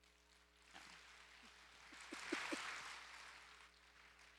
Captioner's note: audience applause